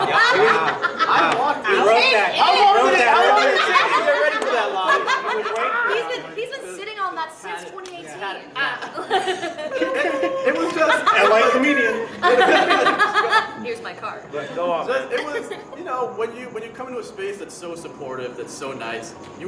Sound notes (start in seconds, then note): 0.0 chuckles; 0.2 member laughing; 0.2 overlapping chatter; 9.0 member laughing; 13.0 member laughing